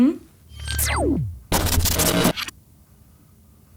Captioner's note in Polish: dźwięk wyłączenia kamuflatora